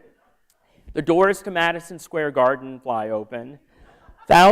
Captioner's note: laughter